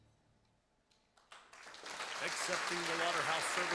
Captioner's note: applause